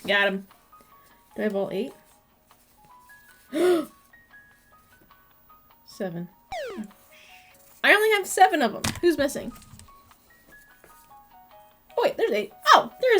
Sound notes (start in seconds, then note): 3.5 gasp